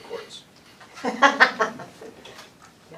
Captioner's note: laughter